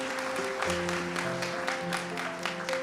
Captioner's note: applause